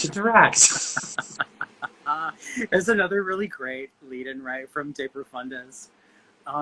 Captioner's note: laughing